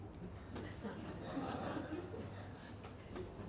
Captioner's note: audience chuckles